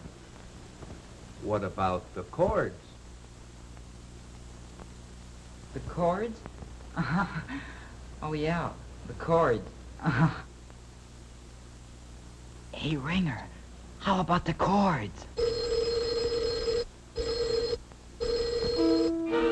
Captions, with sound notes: what about the cords? - The cords? Oh yeah, the cords. Hey ringer, how about the cords? (loud ringing)